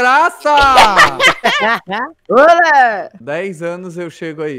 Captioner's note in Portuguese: rindo